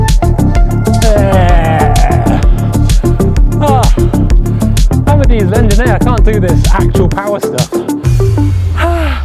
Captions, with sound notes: (grunts) (music drowns out speaker) I can't do this actual power stuff.